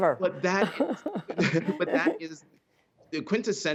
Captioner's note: laughter